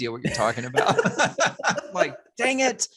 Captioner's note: all laughs